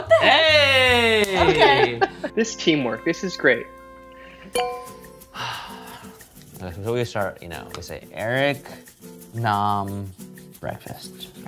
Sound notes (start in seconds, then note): 4.4 soft music; 5.3 sighs